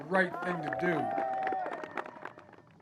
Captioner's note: cheering and applause